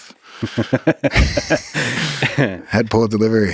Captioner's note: both laughing